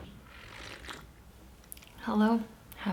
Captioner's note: slurping